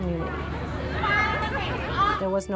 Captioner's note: crowd Walla